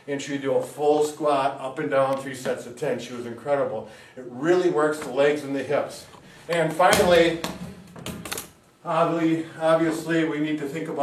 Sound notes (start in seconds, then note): 6.6 ball bouncing